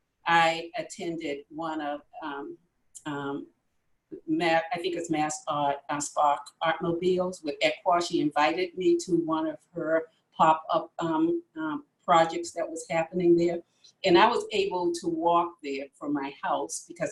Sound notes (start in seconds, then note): none